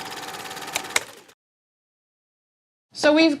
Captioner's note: film rolling; clicking